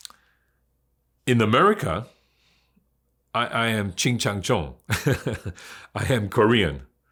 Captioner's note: laughs